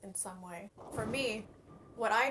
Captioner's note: SFX: Bowling strike